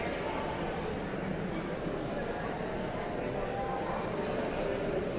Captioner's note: audience chattering continues